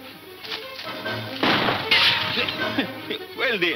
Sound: gunshot

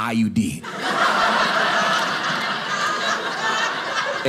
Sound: audience laughing

